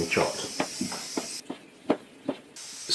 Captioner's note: chop chop chop